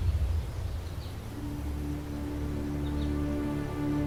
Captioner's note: birds chirping